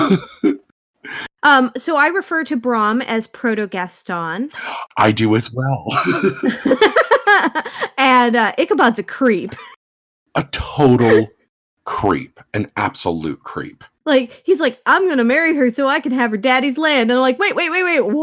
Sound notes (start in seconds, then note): 5.8 both laugh; 9.7 laughs